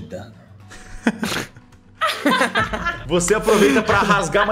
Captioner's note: laugh